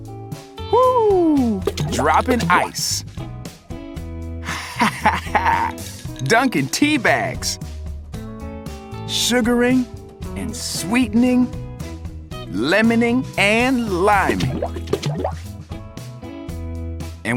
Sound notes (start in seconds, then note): 4.4 laughs